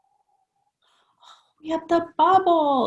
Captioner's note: exhales softly